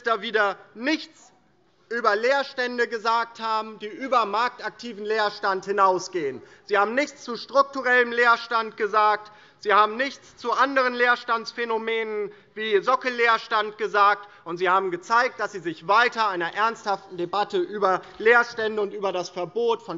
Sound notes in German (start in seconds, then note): none